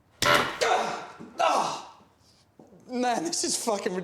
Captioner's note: grunting